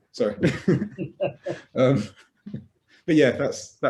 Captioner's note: laughing